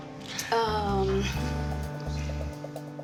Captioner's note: none